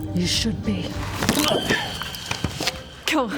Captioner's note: snap